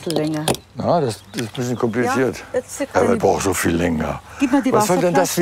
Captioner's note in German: empört